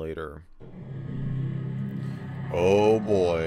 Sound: intro animation sound

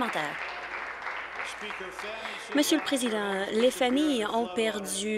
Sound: applause

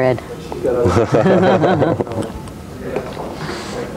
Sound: laughter

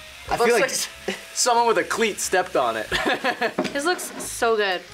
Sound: laughs

